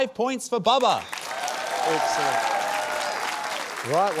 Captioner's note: cheering, applause